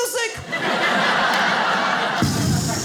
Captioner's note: audience laughs; imitates explosion